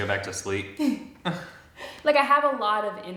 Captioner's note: chuckles; both chuckle